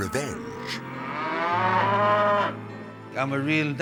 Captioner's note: cows mooing